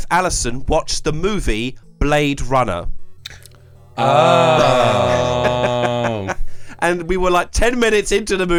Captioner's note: laughs